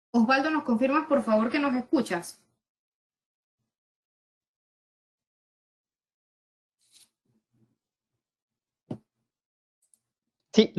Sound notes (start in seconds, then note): 3.0 silence